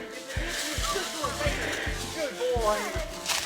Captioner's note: breathing heavily